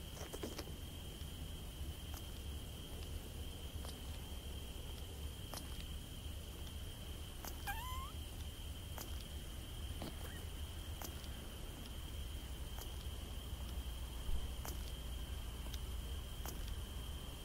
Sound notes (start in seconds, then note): 7.7 tiny fart